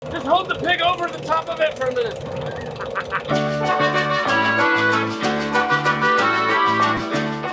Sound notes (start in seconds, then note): 2.4 laughing; 3.3 Latin music